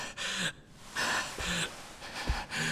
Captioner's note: gasping